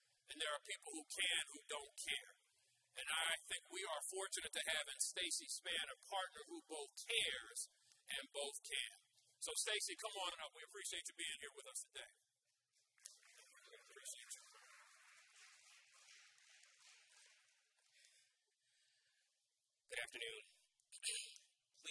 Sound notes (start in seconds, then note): 15.5 audience applauds